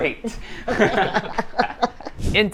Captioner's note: laughs